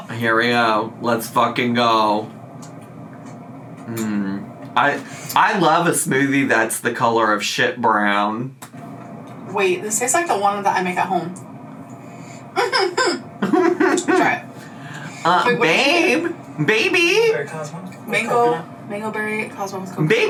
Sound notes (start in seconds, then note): 12.5 laughs; 13.4 mimics laugh